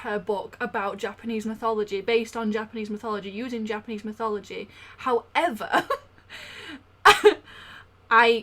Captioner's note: laughs